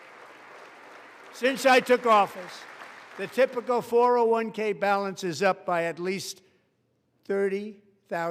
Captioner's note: applause